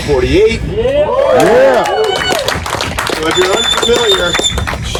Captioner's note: audience cheering